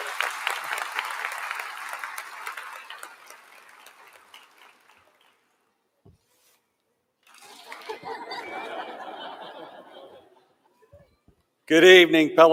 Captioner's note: applause